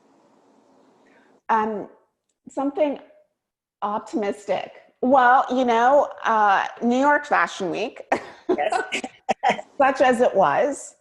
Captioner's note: laughter